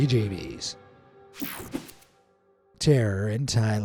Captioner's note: transition slashes